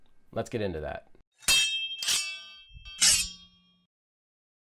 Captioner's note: metal clinking